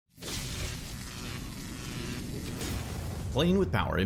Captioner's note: electricity sparking